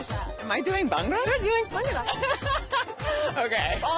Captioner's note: both laugh